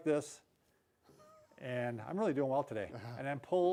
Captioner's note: laughs; laughs